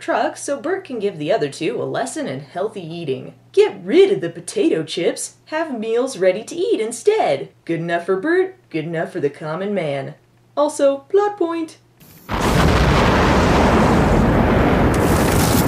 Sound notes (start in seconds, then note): 12.1 explosion